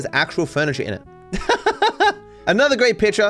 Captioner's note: laughing